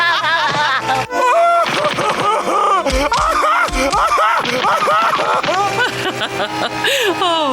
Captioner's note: laughing